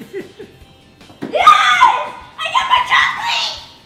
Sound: chuckles; screams

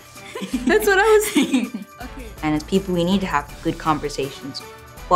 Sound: laughing

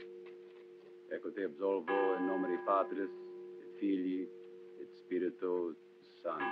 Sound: padre martin administra ritos funerais em latino

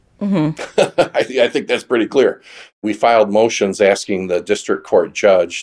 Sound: laughs

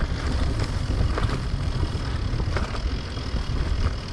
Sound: bike whirring

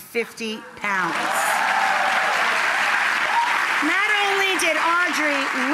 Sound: audience applauds

